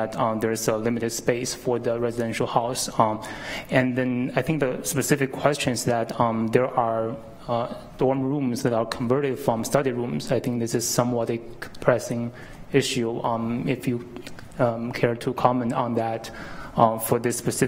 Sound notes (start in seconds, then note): none